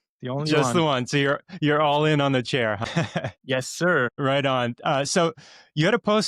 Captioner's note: laughs